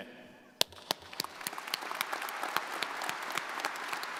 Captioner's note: crowd applauding